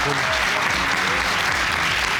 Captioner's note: audience applauding